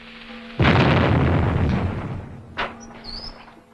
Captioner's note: explosion